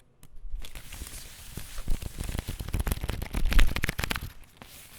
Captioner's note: cards shuffling